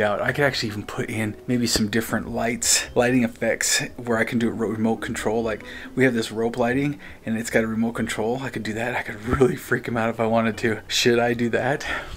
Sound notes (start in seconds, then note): none